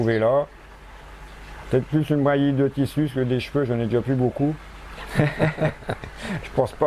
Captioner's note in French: rire